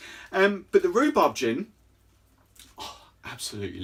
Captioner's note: sighs